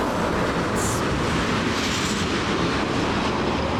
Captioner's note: train rushing